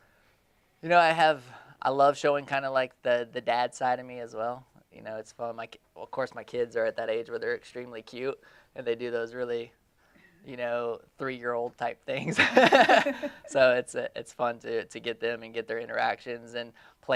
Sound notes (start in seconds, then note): 12.3 laughing